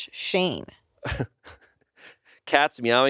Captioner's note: laughs